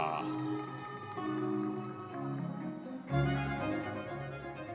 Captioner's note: audience members cheering